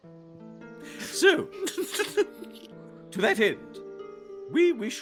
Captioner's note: Cornette laughs